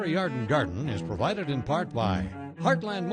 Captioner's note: voiceover